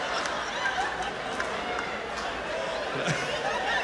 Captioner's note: laughter